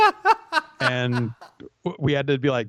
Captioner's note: laughs